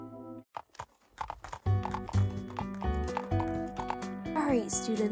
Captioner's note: A lot hoof steps